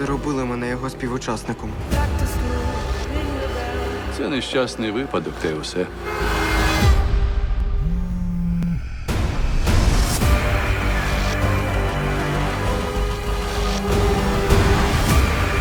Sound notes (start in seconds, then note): 7.8 phone vibrating; 10.2 sinister music playing